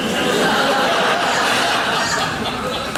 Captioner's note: laughing